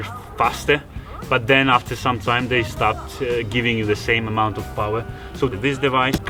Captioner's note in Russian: генератор